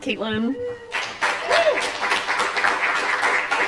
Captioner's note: applause